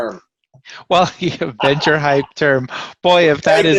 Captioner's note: laughs